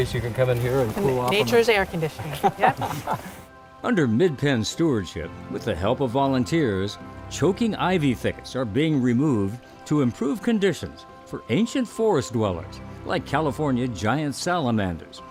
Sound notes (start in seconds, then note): 2.2 all laugh